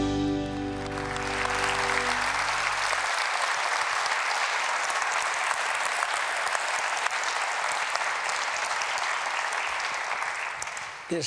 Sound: applause

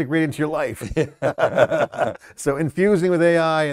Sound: laughter

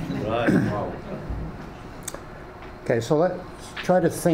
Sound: faintly speaking

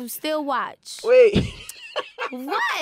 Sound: laughing

